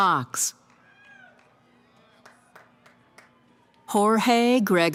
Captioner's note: cheering